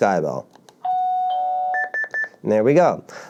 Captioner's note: beeping